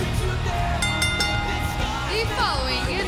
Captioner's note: bell ringing